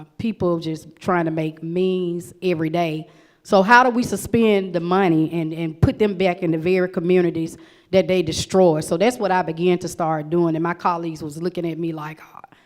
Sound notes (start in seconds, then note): none